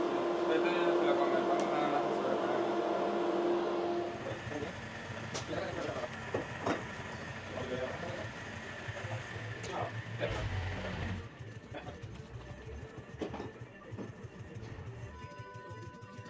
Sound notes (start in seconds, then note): 0.0 engine noise